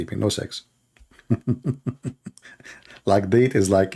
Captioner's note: Ketawa